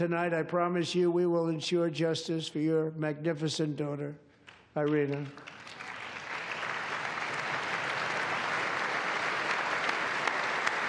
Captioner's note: applause